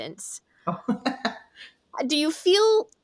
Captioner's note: laughs